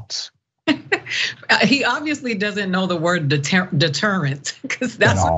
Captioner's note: laugh